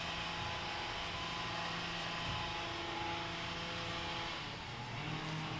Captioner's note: this sound is the sound of grass being cut outside the apartment